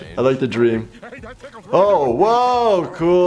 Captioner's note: Teddy chattering